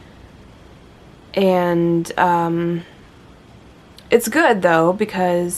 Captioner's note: none